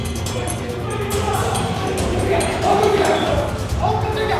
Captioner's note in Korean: 멀리서 들리는 다급한 음성